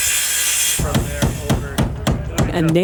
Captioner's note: hammering